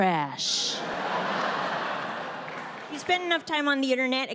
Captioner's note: audience laughs